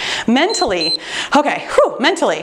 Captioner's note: timer beeps